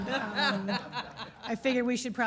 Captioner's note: laughing